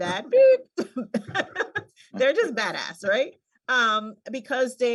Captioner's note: laughs